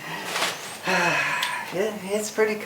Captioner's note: giggles; sighs